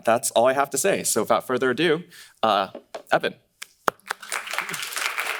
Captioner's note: claps; audience applauding